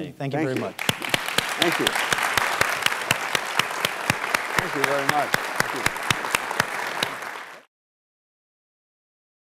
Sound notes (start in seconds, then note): 2.0 applause